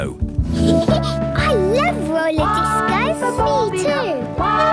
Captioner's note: Peppa laughing; trumpeting